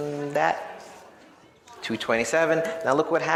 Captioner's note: audience chattering